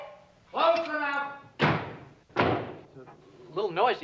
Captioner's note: doors slam